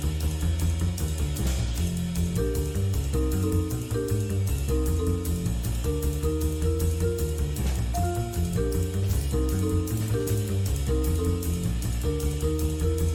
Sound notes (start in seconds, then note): none